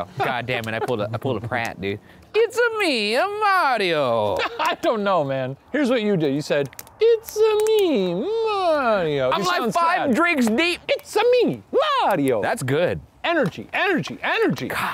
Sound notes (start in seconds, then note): 4.1 laughs